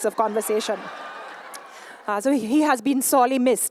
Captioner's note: laughter